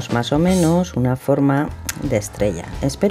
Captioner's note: clicking tongue